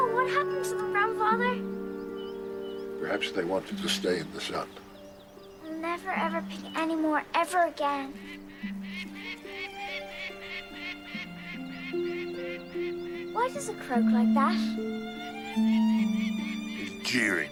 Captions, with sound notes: Oh no! What happened to them, grandfather? Perhaps they wanted to stay in the sun. I'll never ever pick any more ever again. [hawk screeching] Why does it croak like that?